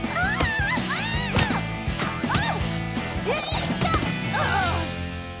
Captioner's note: squeals and grunts